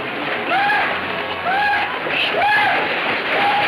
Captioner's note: horses galloping